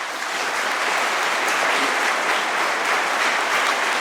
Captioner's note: applause